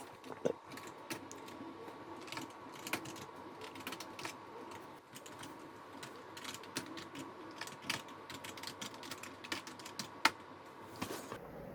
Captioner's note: fast motion typing